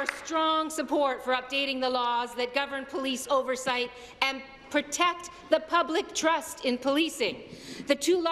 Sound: applause

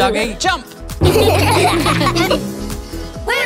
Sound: laughing

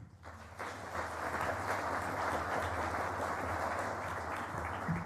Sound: applause

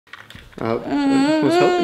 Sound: cries

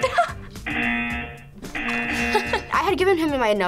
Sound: laughs; buzzer

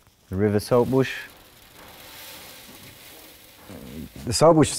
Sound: grain pouring

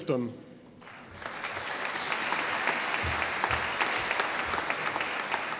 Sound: audience applauding

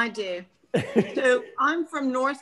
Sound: laughing

